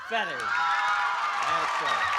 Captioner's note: applause and cheering